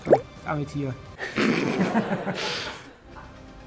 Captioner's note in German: Lachen; Spannungsvolle Musik